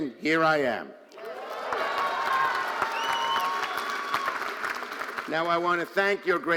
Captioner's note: audience cheering and applauding